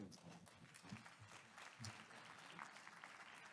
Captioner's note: applause